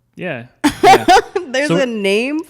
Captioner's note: laughs